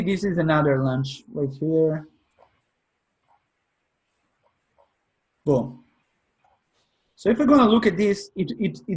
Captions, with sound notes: You see this is another launch right here. (mouse scrolling) Boom. So if you're gonna look at this